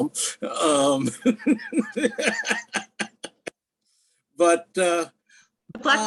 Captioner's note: laughs